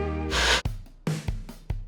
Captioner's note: upbeat Music; Static